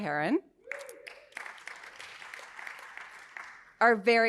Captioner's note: audience applauding